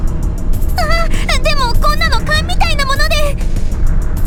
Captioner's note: gasp